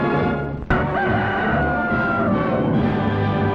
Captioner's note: rooster crow